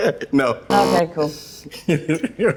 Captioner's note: buzzer interrupts